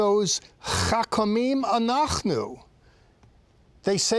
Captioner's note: speaking in Hebrew